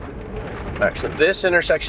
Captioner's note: vehicle rattling